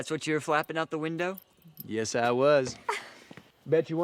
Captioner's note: Sawyer laughs